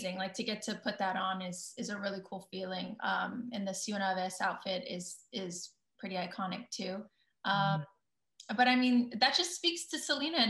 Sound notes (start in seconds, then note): 3.4 speaking in foreign language